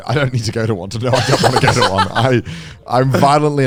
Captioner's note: laughs